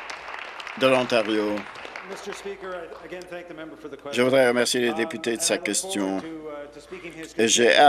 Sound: applause

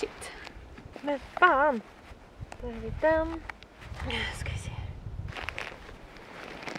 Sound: speaking Swedish

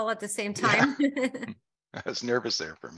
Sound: both laugh

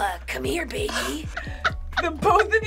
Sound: chuckling

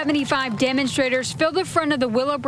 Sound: cheering; applause

